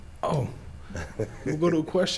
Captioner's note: laughs